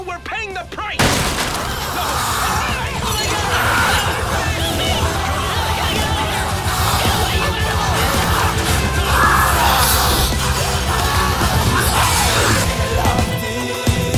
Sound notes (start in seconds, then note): 7.3 snarling; 8.7 screaming